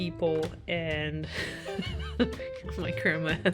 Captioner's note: laugh